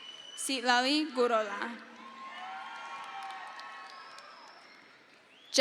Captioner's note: crowd cheers